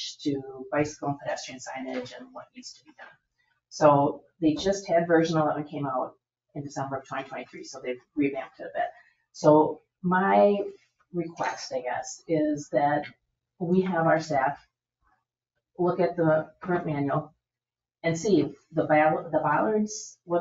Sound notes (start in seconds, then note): none